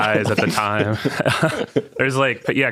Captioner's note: participants laughing